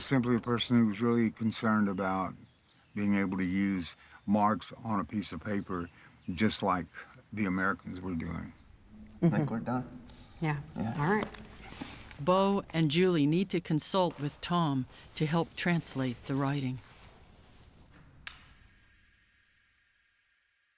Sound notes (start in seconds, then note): 18.2 switch clicks